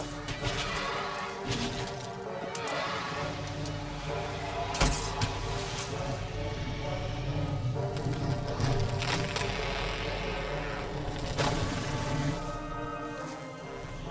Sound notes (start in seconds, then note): 0.3 roaring; 6.5 dragon growling; 8.0 tree snapping